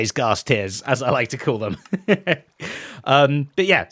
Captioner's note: laughs